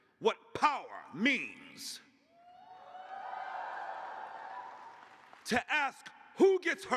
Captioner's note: cheers